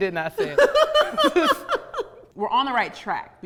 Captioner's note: laughs